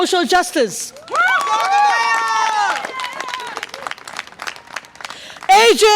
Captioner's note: audience applause and cheer